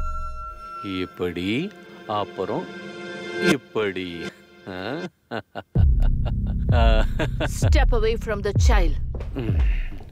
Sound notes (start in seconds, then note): 4.7 giggling